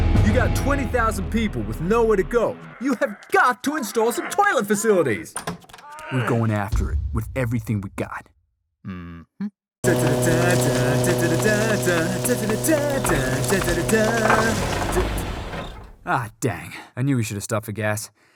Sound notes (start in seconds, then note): 9.8 hums